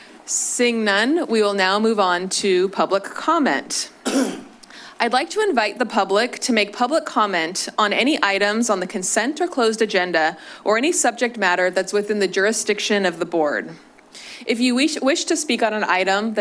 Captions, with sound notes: Seeing none, we will now move on to public comment. [coughs] I'd like to invite the public to make public comment on any items on the consent or closed agenda or any subject matter that's within the jurisdiction of the Board. If you wish to speak on an item